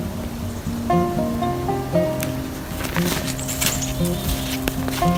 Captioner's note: birds chirp; river rushes